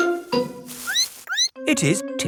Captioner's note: squeaks